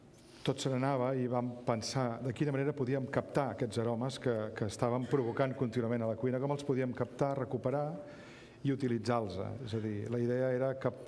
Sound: speaking catalan

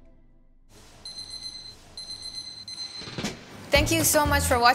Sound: alarm beeping

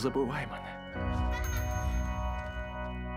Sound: laughing

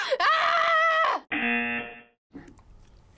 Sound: buzzer

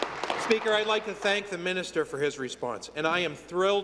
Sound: applause

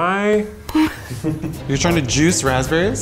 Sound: laughing

